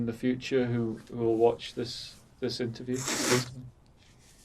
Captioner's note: wiping nose